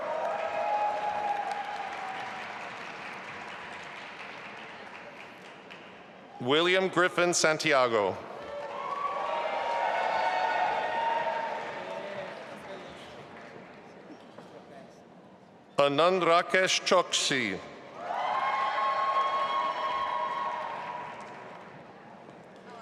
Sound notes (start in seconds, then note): 0.0 audience applauding; 8.4 audience applauding and cheering; 18.0 audience applauding and cheering